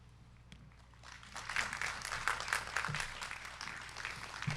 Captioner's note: crowd clapping